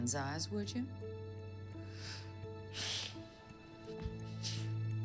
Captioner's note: sighs